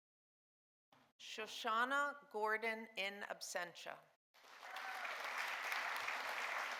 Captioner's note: audience applauding